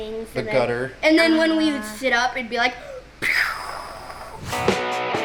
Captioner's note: wooshing; guitar music